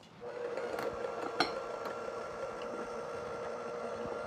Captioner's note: mixer whirring